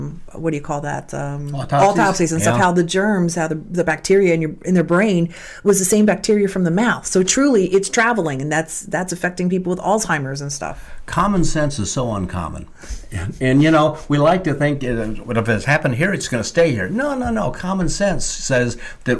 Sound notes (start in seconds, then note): 12.9 laughs